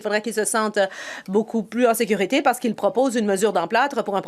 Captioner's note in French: voix de l'interprète